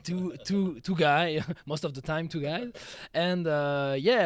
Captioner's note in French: rires